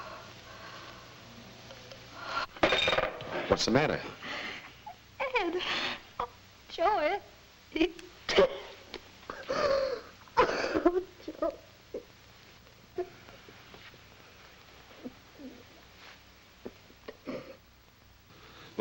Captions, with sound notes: (Martha gasps) (receiver clatters) - What's the matter? - Ed. Oh, Joe, Ed, he... (sobbing) Oh, Joe. (Martha crying)